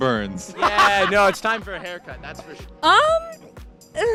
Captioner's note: laughter